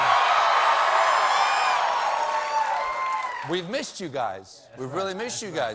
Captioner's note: cheers and applause